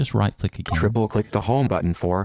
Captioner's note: electronic Voice